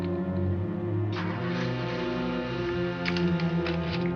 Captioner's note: car starts